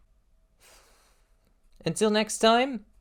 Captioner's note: phew